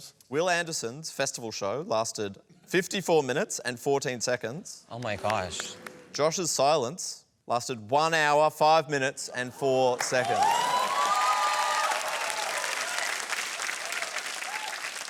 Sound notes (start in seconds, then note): 9.7 cheering and applause